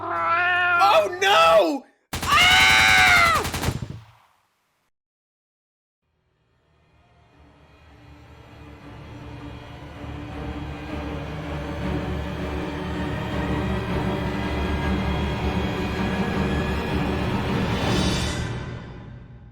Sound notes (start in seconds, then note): 0.0 meow; 2.1 gunshots; 6.4 suspenseful music